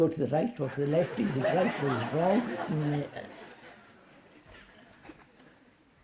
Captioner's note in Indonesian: Tertawa